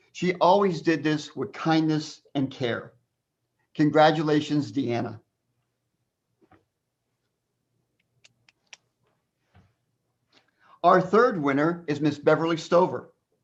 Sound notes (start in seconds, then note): 8.2 clapping hands